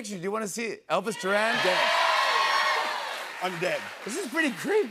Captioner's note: cheers and applause